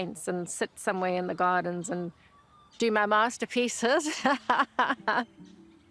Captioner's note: laughs